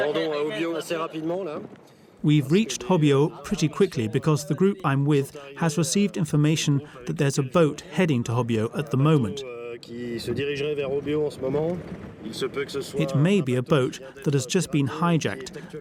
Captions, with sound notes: We've reached Hobyo pretty quickly because the group I'm with has received information that there's a boat heading to Hobyo at the moment. [French spoken audio] It may be a boat that has just been hijacked